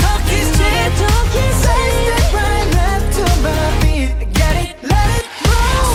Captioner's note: heartbeat